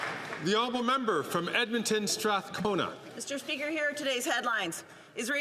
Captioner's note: some Applause